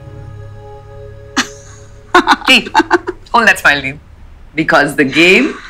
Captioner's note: Poonam laughing